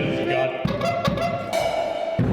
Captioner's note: horn blows; percussive beats